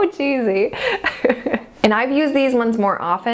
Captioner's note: laughs